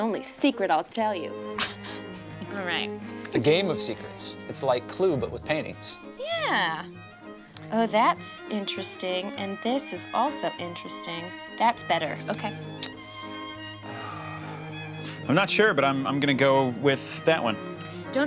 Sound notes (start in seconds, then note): 1.6 chuckles; 13.1 soft classical music; 13.8 groans